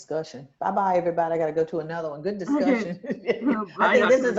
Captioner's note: laughs